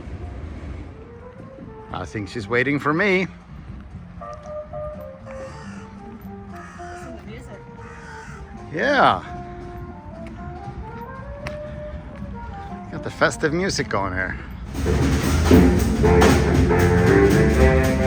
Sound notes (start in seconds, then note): 4.3 birds chirping; 4.7 upbeat music; 14.7 upbeat music